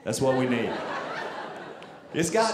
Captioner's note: audience laughing